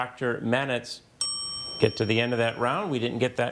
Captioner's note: bell dinging